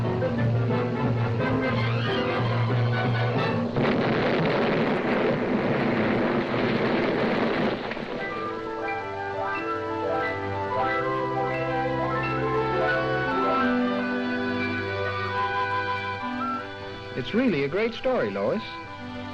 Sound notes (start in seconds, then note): 3.3 explosion booms; 8.8 light music